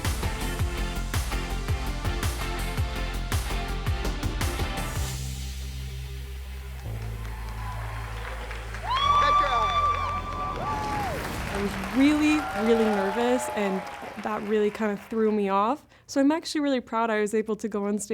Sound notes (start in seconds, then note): 6.4 cheering, applause; 8.5 whooping